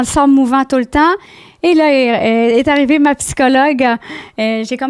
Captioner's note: in french